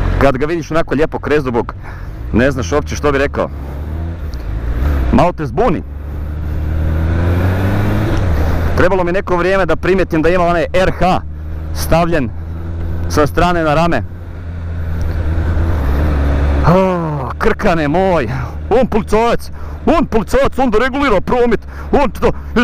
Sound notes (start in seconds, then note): 17.9 thick accent